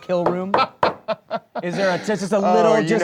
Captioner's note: laughing